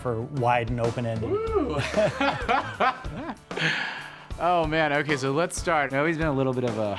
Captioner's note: laughs